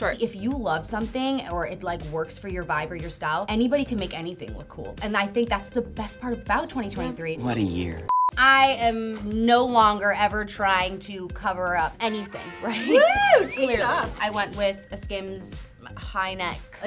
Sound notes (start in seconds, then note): 8.0 beeping; 12.8 cheering